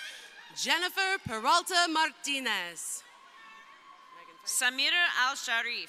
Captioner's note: crowd cheering